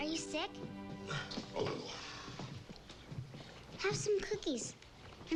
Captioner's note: grunts